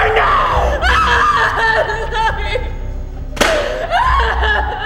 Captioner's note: Elizabeth screaming